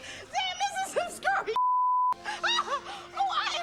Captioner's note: beep; Brenda laughing